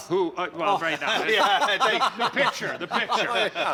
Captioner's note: laughter